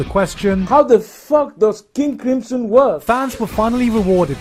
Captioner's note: African accent